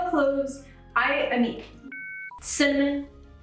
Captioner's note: beep